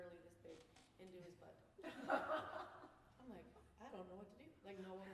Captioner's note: laughter